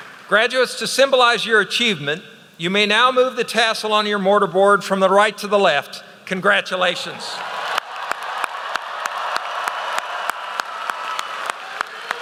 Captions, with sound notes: Graduates, to symbolize your achievement, you may now move the tassel on your mortar board from the right to the left. Congratulations. (applause)